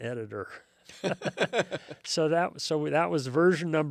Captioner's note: both laugh